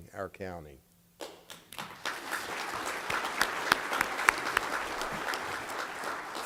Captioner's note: applause